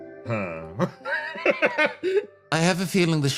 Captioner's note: laugh